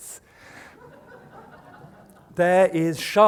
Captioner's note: laughter